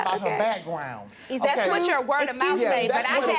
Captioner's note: yelling